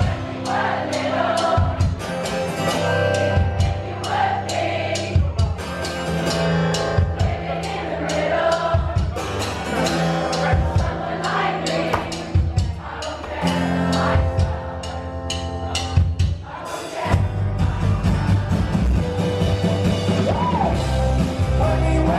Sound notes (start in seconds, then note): 12.9 crowd laughs